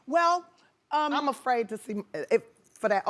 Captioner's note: stuttering